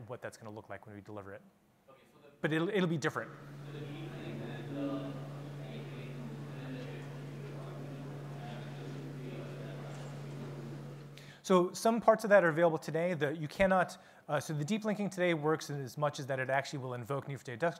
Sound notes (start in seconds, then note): 3.9 faintly speaking